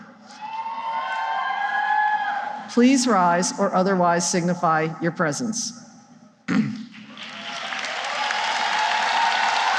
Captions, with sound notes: [cheering] ...please rise or otherwise signify your presence? [cheering and applause]